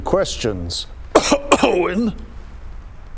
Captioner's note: cough